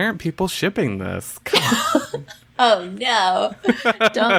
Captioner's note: laughs